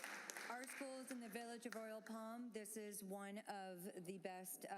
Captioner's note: applause